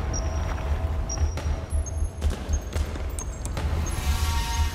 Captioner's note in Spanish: Bip; Bip continúos